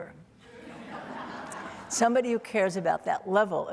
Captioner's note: audience laughing